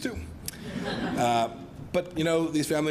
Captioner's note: laughter